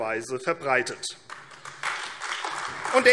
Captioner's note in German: Beifall AfD